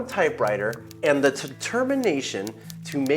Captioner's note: typewriter keys clicking